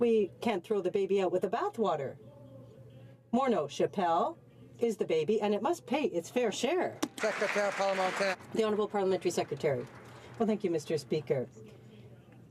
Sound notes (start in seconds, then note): 10.6 some Applause